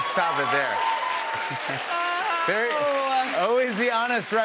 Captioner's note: cheers and applause